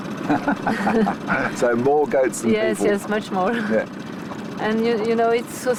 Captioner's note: laughs